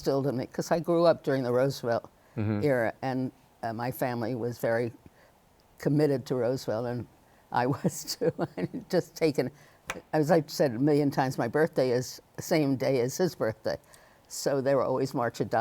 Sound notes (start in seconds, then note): 8.8 laughs